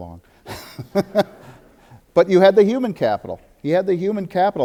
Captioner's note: audience laughter